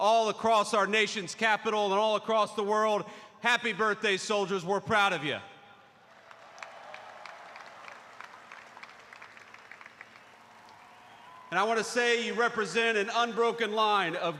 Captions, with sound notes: all across our nation's capital and all across the world, happy birthday, soldiers. We're proud of you. (applause) And I want to say you represent an unbroken line